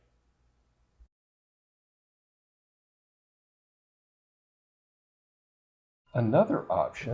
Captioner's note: silence